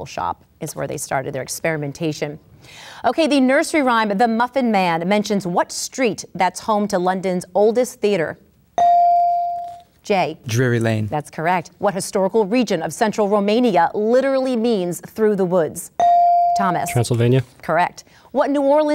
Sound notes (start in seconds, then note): 8.8 ding; 16.0 ding